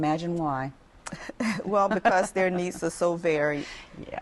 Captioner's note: laughter